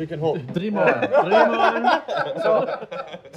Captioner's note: everyone laughs